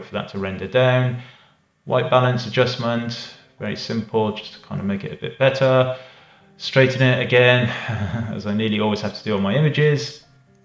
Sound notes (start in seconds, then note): 7.6 laughing